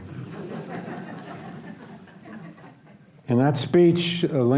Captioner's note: audience laughs